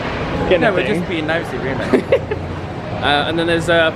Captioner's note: laughs